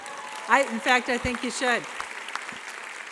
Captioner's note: audience applauding